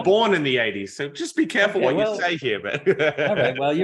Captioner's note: laughs